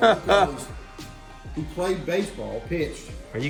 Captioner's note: chuckle